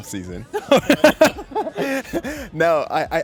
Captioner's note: laughing